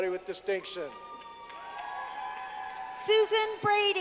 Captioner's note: clapping